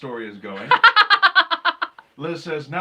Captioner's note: laughing